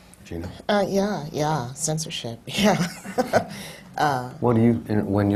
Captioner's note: laughs